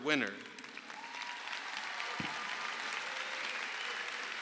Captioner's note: crowd applauds